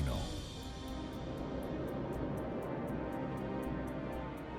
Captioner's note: clock ticking